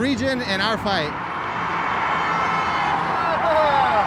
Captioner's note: vehicle horns honking